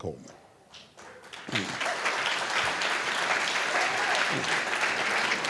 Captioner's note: applause